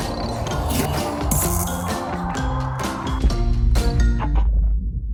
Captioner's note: digital whirring